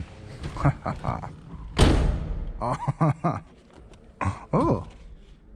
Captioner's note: chuckling with satisfaction